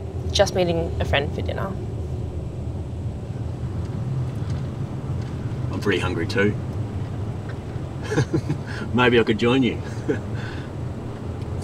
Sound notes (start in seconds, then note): 8.0 chuckles